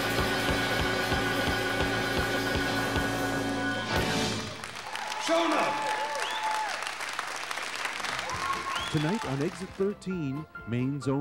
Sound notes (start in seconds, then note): 3.8 audience applauding